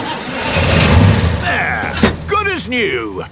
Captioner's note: engine starts